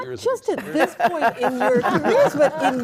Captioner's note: all laughing